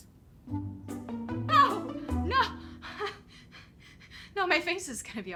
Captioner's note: gasping